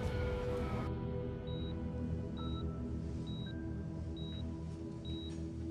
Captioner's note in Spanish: Bip en el monitor